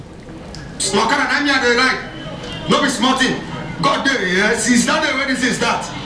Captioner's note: speaking in foreign language